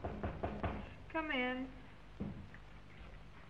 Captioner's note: knocking thuds